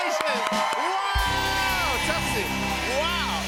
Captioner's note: cheers and applause